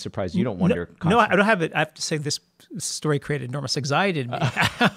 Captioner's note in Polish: śmiech